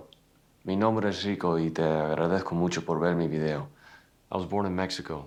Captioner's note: speaking Spanish